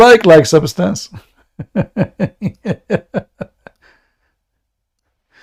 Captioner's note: Ketawa